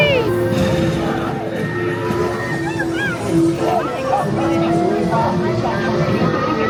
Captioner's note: spooky music; people screaming